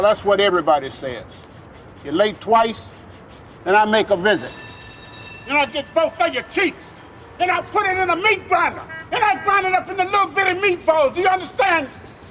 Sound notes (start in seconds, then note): 4.2 bell rings